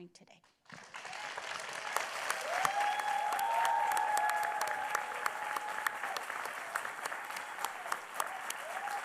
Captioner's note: applause